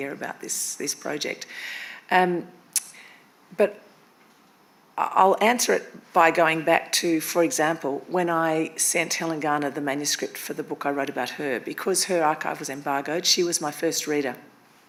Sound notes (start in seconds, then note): none